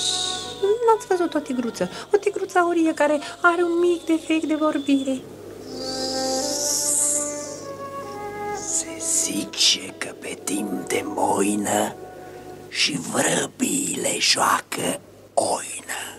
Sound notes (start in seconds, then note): 5.6 hisses